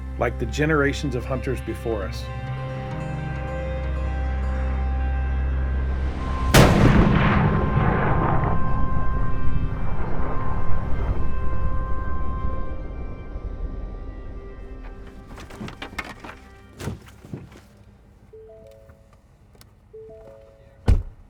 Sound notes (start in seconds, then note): 4.1 introspective music continues; 6.5 gunshot; 6.6 music fades